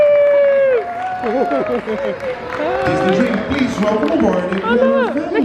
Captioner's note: crew applauding